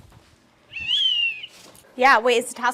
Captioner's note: whistle